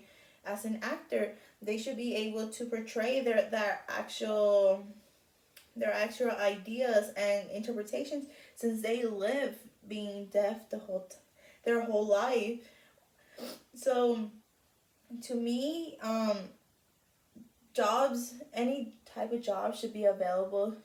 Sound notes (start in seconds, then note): 13.2 sniff